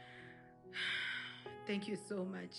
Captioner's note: exhales